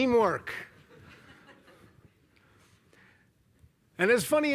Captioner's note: laughter